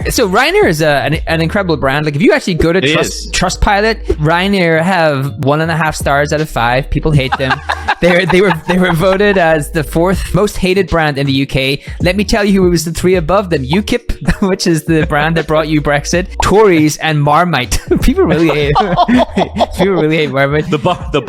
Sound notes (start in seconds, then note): 7.2 laughing; 18.0 laughs heartily